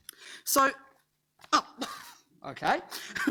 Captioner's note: laughing